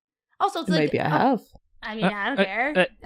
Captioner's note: Rik stutters